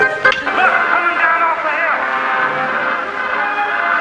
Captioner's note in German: Klick